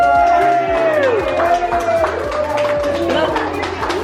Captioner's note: crowd cheering